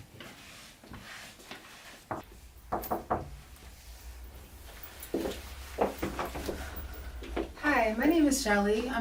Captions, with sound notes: (knocks) Hi, my name is Shelley.